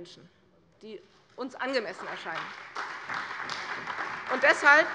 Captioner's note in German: Beifall bei der CDU